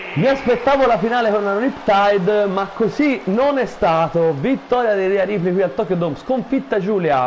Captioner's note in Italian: Applauso